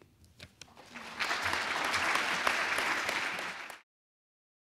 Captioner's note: audience applauds